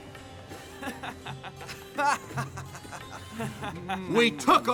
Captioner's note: laughs